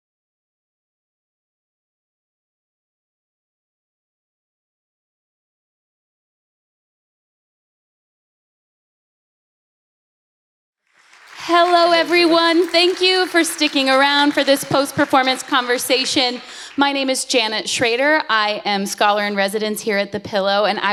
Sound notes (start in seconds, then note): 10.9 audience applauds